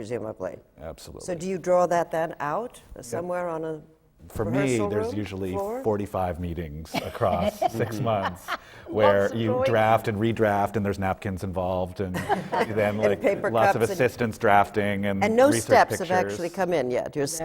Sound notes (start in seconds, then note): 6.9 laughs; 11.3 laughter from the panel